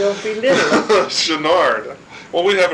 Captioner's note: laugh